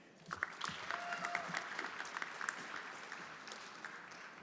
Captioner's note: everyone applauding